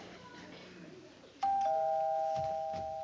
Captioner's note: doorbell ring